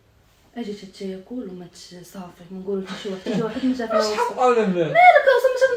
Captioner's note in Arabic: ضحك